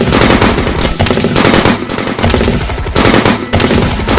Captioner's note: guns shoot